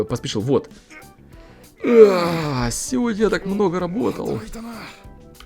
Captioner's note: Sound of tired Taku